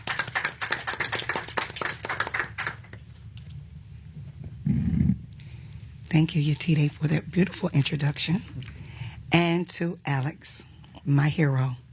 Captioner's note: applause